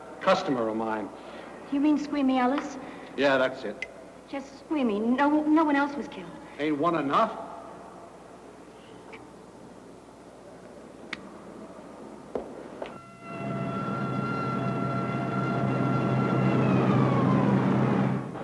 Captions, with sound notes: Customer of mine. - You mean Squeamy Ellis? - Yeah that's it. - Just Squeamy? No one else was killed? - Ain't one enough? (lighter clicks) (siren wails)